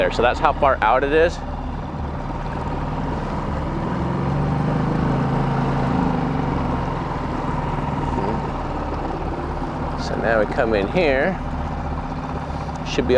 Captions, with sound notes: So that's how far out it is. (dramatic music) (siren blaring) So now we come in here.